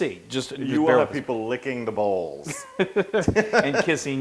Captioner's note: laugh